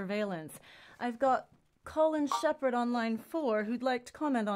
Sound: connect sound

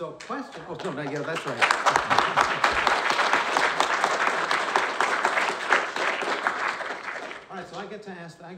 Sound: applause

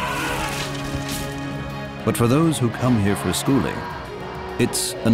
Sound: elephants calling

